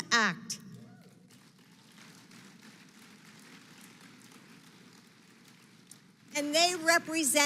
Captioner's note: applause